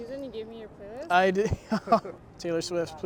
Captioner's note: laughs